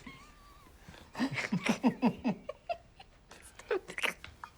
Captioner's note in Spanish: ambos riendo